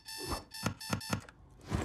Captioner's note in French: tapotements inutiles